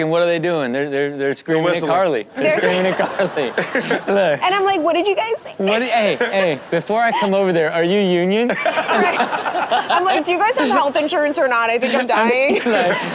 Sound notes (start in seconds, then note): 8.3 hosts laughing